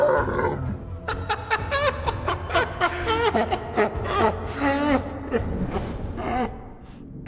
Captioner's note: distressed laughter